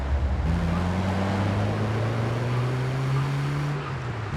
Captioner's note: engine revving